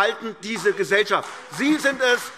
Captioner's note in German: Beifall AfD